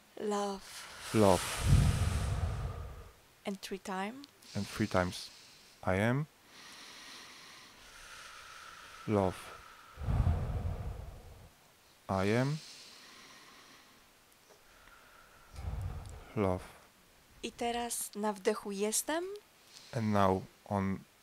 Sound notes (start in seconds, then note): 0.6 exhale sound; 6.5 inhale sound; 9.9 exhale sound; 14.6 inhale sound